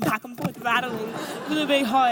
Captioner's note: audience laughs